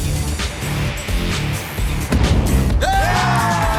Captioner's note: cheers and applause